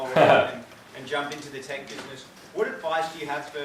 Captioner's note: laughs